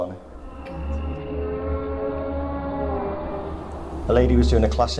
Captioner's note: muffled groaning